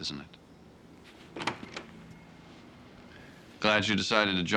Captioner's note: door opens